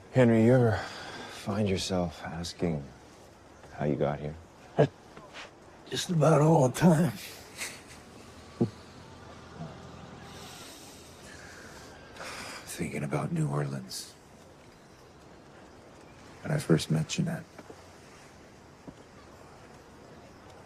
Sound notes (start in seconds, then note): 4.7 chuckles